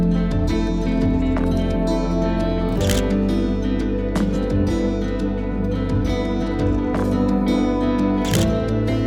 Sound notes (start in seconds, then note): 2.8 camera shutter clicks; 8.2 camera shutter clicks